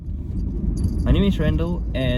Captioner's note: car engine humming